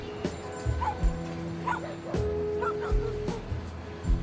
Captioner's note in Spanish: ladridos